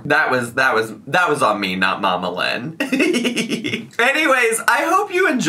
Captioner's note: giggles